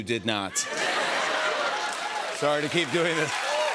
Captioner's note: laughter